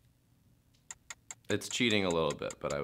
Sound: ticking

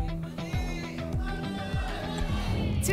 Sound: cheering

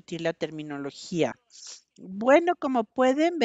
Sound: a través de intérprete

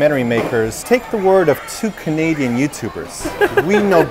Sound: laughs

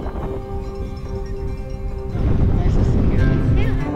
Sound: bell ringing

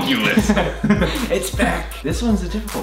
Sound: laughs

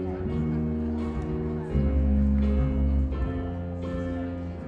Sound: audience chattering

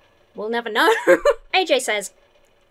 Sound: laughs

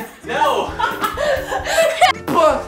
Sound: laughing

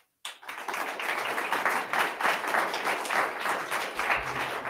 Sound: attendees clapping

